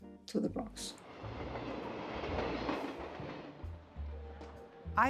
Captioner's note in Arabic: صوت قعقعة المترو